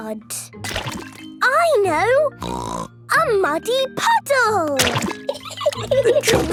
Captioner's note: laughing